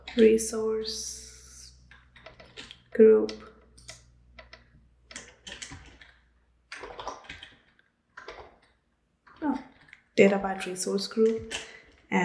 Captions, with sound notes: Resource group. (keyboard clicking) Oh, Databyte Resource Group